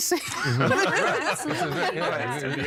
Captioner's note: all laughing